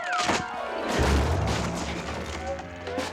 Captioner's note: crashing